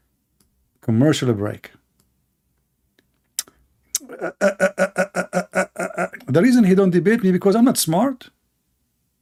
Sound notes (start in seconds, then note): 4.1 Ketawa